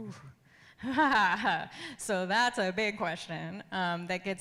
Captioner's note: laughs